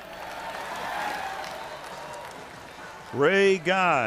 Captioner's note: cheering